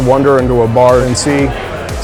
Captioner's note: indistinct chatter